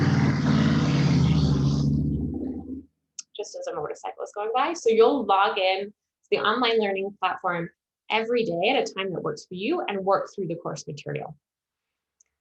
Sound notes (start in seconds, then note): 0.0 motorcycle noise